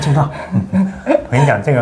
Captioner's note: laughing